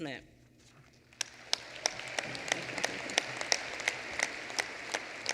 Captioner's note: applause